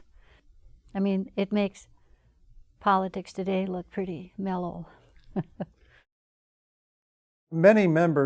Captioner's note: chuckles